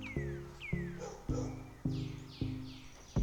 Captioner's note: birds sing, crickets chirp